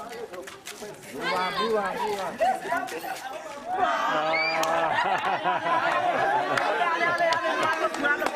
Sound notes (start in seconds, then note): 4.6 laughter